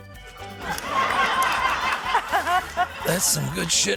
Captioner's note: laughter